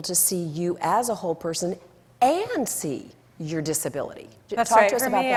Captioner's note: none